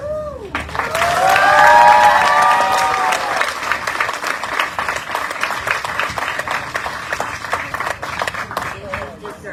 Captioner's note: audience cheering, applauding